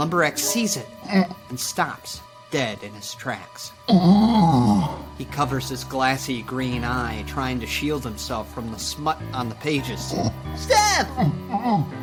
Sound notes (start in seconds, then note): 3.8 Lumber Axe groaning